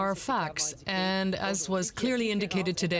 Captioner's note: speaking French